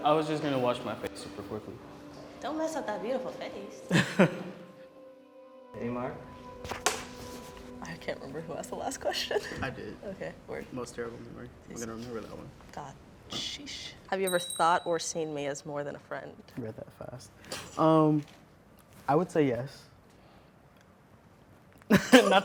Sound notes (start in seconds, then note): 3.9 laughing; 21.9 laughing